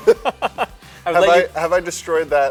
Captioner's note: laughter